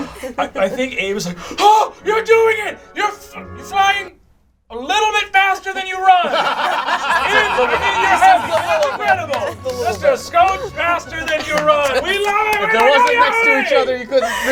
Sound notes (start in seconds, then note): 6.5 all laugh